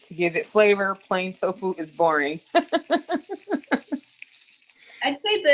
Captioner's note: laughs